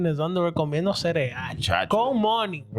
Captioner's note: speaking In Foreign Language